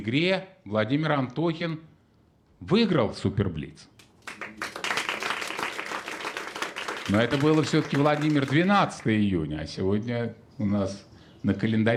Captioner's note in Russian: аплодисменты